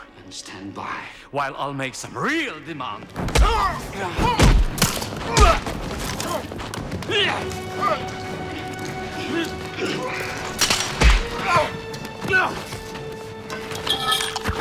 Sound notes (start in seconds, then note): 3.4 grunts